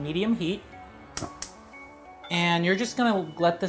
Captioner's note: stove clicks